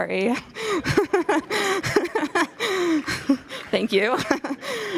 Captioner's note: audience chuckles and applauds